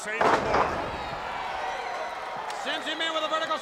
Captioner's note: body thuds